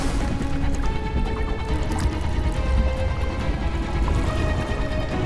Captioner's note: suspenseful dramatic music; water lightly lapping